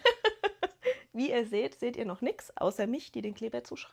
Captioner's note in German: gelächter